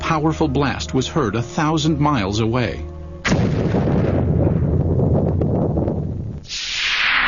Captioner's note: explosion